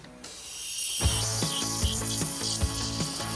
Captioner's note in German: Zischen